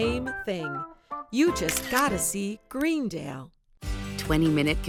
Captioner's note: camera clicking